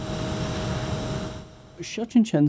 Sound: engine whirring

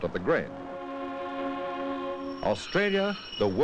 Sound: sound of train horn

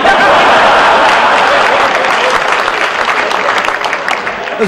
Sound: laughter and applause

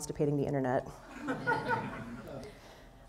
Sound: laughter

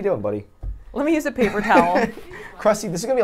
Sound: laughs; laughs

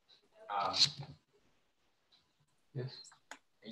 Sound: indistinct conversation

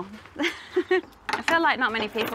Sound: laughs

